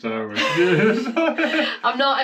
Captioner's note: laughing